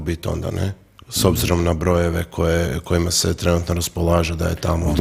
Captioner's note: coughs